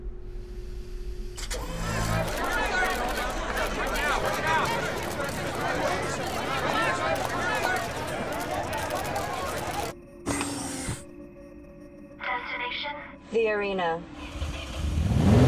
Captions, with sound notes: [Crowd Screaming] Destination? -The arena.